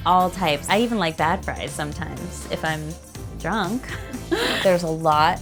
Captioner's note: laughs